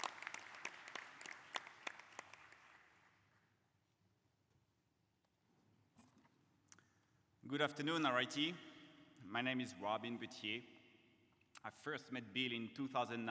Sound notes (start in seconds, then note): 2.1 applause